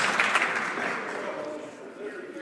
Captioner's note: some Applause